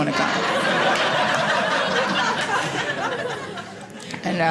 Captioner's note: audience laughing